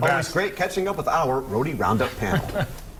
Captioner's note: laughter